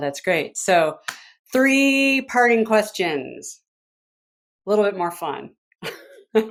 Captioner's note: laughs